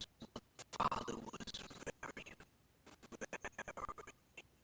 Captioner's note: audio skipping